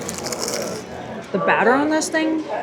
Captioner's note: Crunch